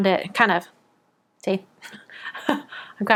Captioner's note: laughs